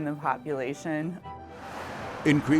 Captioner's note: police car driving past